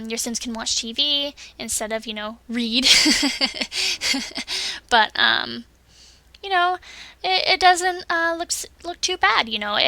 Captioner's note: laughs